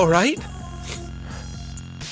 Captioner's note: sniffle